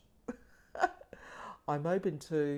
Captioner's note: chuckling